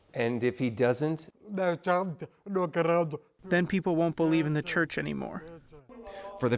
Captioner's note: through translator